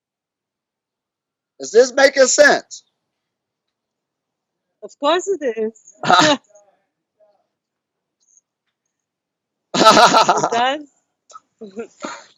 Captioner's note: laughs